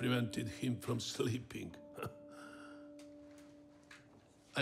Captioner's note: chuckles